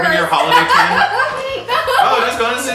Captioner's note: laughs